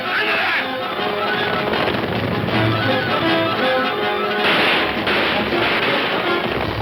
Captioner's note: suspenseful orchestral music; guns firing